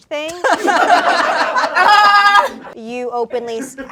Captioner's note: everyone laughs